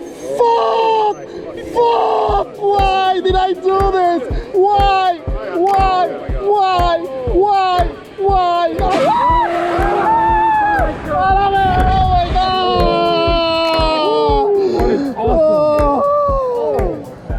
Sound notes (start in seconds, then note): 8.9 screaming; 14.6 moans